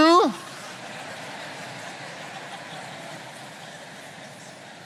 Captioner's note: audience laughing